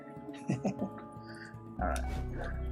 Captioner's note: chuckles